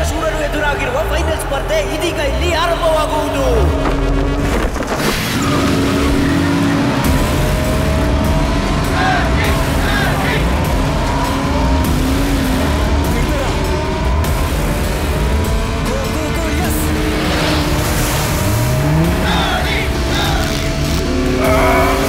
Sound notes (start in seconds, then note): 3.7 car Sound